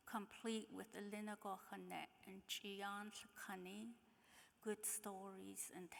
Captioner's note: speaking in foreign language